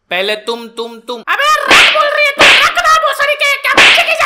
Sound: slaps!

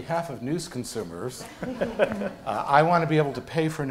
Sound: laughter

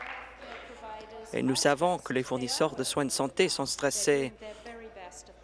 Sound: applause

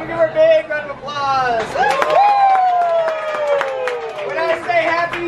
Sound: cheers; applause

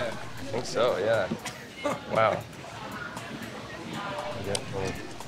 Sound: laughs

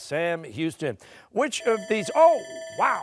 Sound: buzzer

